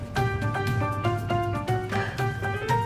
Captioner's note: chuckles